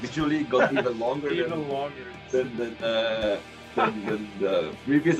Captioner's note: недвусмысленный смех над словом "длиннее"